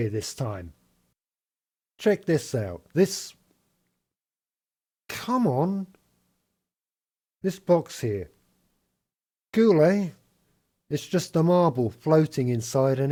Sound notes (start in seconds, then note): 4.2 pause